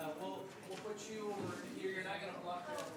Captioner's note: background chatter